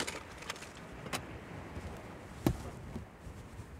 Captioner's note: glove Box Opens & Closes; visor Opens